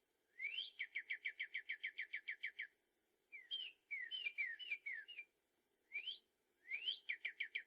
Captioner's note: bird singing